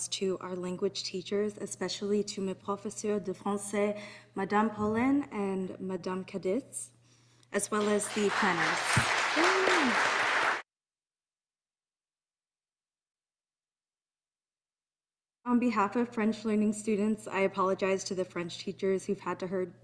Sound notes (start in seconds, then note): 2.5 speaking in French; 7.7 audience applauding